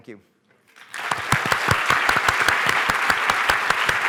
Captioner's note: applause